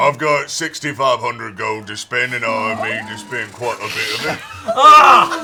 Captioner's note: calls out